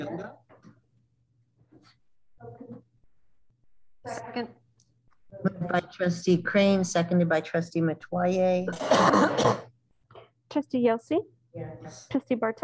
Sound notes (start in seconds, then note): 8.6 coughing